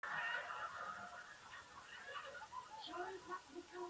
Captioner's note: audience laughs